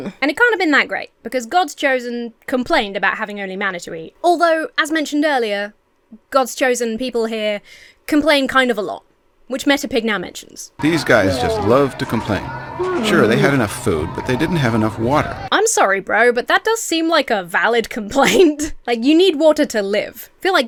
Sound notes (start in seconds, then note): 18.2 Emma chuckles